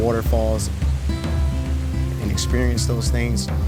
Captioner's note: waterfall sounds